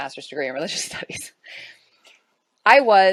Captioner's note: chuckles